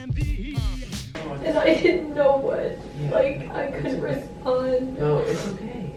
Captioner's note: crying